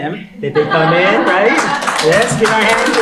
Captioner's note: applause